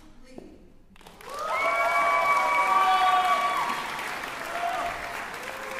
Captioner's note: cheering